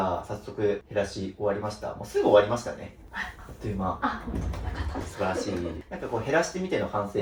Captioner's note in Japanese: 笑い